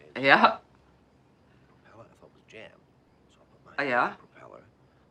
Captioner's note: indistinct chatter in kitchen